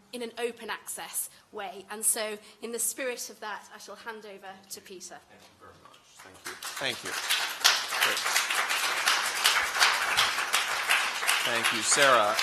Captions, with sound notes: in an open-access way. In the spirit of that, I shall hand over to Peter. Thank you very much. Thank you. [applause] Thank you, Sarah.